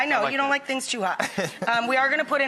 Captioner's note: laughs